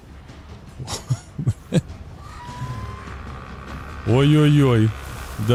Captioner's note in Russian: смех